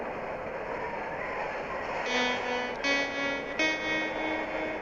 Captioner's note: wind blowing